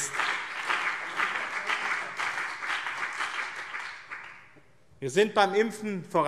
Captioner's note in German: Beifall BÜNDNIS 90/DIE GRÜNEN und CDU